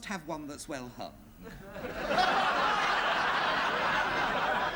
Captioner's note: laughter